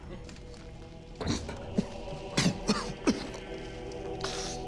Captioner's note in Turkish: Öksürük sesi